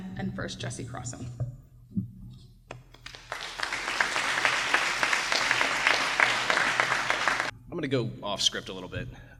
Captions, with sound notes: And first, Jesse Crosson. *Applause* I'm going to go off script a little bit.